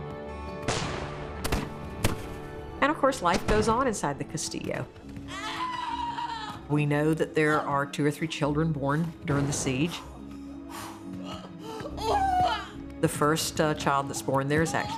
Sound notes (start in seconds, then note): 0.6 gunshots; 5.2 screams; 9.9 breathing sharply, groaning